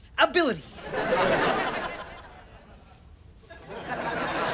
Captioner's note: audience laughter